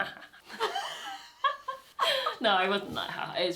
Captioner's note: laughter